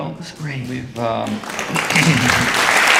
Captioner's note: audience applauding